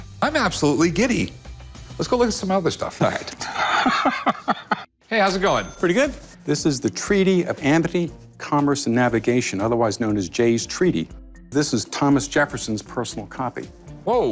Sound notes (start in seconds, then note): 3.3 laughs